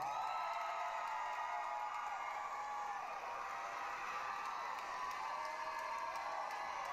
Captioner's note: applause, cheering